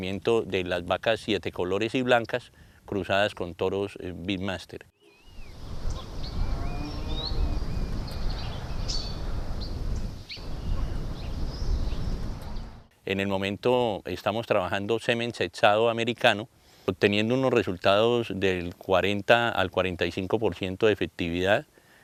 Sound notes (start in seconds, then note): 5.0 birds singing